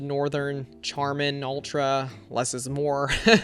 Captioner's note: laughs